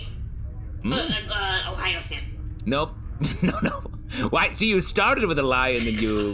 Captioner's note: laughing